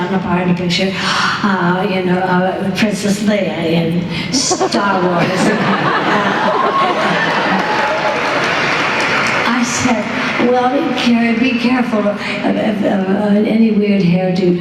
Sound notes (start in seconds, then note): 6.0 applause; 6.1 laughter